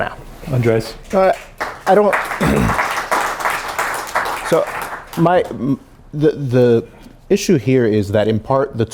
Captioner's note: applause